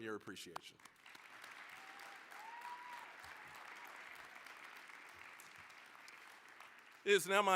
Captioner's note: applause, cheering